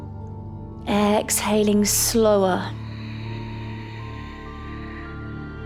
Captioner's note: calm music; exhales